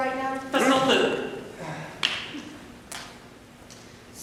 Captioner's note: sighs